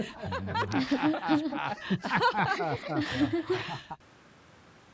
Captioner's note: laughing